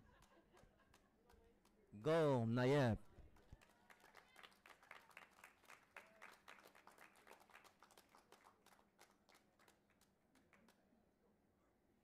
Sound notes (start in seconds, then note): 3.5 audience applauding and cheering